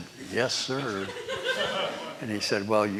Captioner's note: laughter